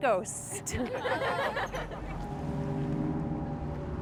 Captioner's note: crowd laughs